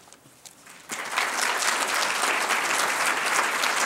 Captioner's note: applause